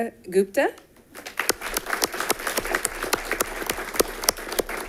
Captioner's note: audience applauding